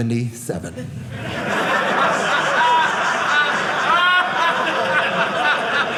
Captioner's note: audience laughing